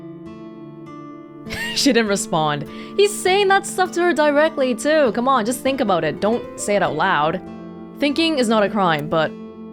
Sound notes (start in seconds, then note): 2.6 exhales